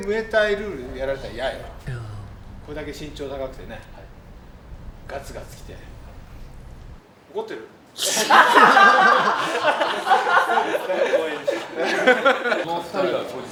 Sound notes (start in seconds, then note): 8.0 laughs